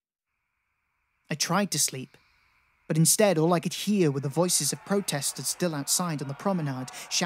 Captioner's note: protestors shouting